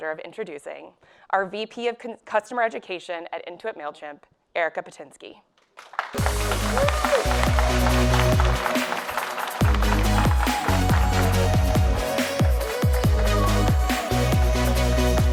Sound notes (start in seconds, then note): 5.8 audience cheers and applauds; 6.1 upbeat music